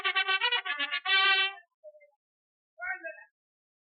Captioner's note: bugle call; man shouting